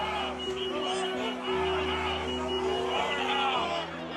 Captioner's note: yelling continues